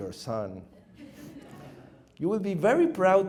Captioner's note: audience chuckles